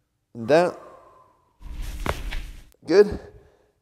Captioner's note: exhales deeply